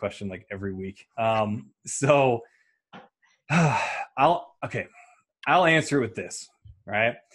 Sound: sighs

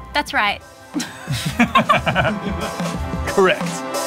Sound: both laughing

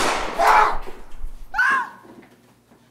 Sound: gunshot; scream

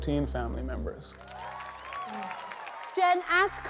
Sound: audience applause

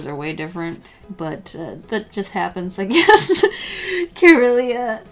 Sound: laughs

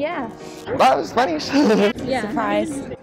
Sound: laughs

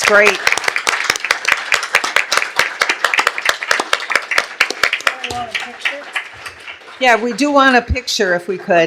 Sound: applause

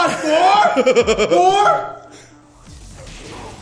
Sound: laugh

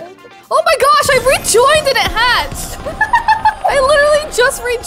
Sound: laughing

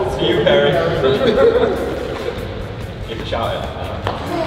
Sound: laughter

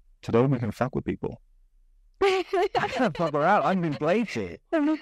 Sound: laughs

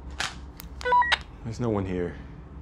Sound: walkie talkie beeps

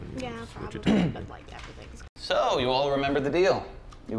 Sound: clears throat

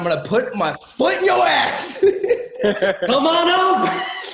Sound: laughing

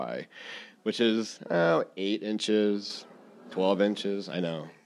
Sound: audience exclaiming

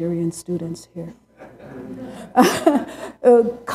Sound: laughter

